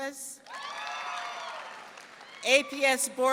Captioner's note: audience clapping and cheering